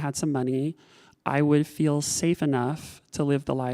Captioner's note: none